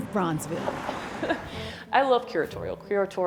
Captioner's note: chuckles